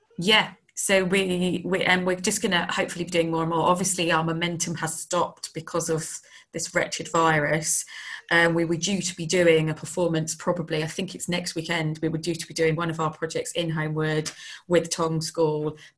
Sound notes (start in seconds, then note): none